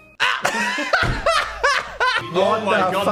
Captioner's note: laugh